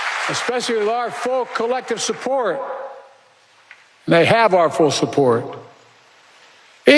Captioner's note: applause